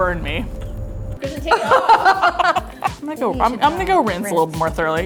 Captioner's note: laughing